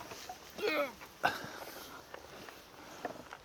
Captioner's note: grunting